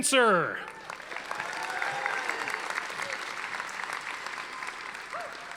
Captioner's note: audience applauding